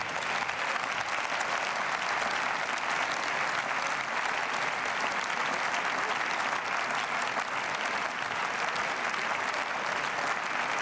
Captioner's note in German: Beifall